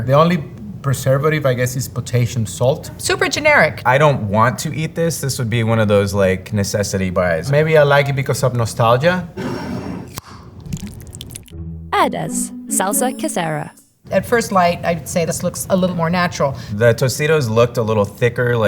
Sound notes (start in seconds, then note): 9.4 jar sliding; 10.4 salsa pouring